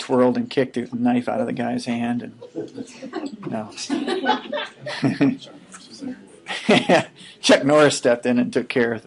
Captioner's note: laughing